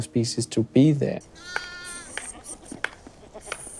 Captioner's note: goats bleat